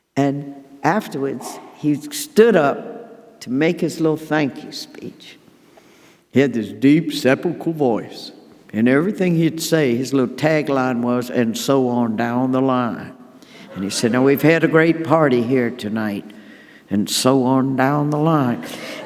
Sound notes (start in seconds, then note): 13.6 audience laughing